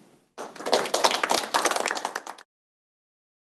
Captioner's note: applause